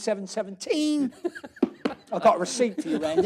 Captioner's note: laughs